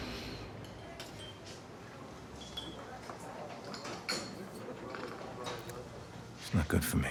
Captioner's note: dishes clattering; glasses clinking